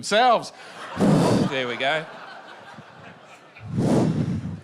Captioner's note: makes sound of a fire